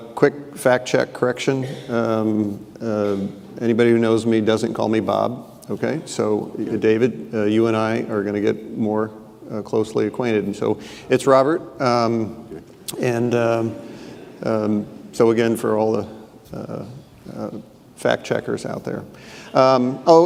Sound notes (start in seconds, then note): 13.0 audience laughing